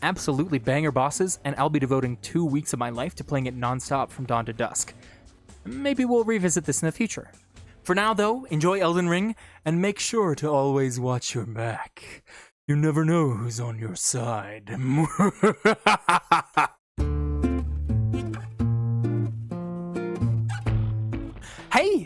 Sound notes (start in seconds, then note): 18.3 evil laugh